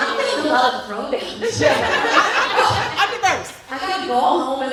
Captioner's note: laughter